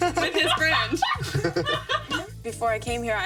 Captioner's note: everyone laughing